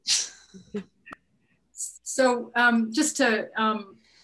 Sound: chuckling

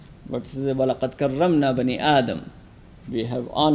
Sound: speaks in a foreign language

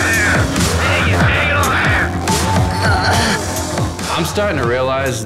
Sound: grunts

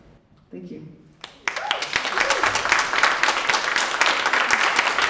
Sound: audience applauding

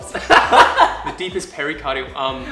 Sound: laughs

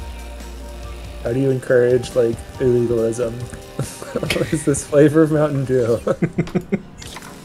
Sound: laughs

